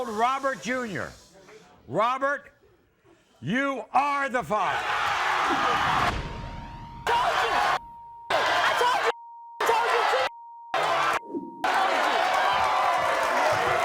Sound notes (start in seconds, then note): 7.0 audience cheers